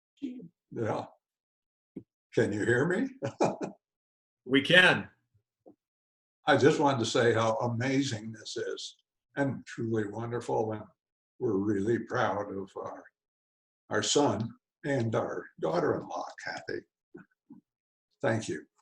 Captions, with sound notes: Yeah, can you hear me? [chuckles] We can! I just wanted to say how amazing this is and truly wonderful. Well, we're really proud of our son and our daughter, daughter in law Kathy, thank you!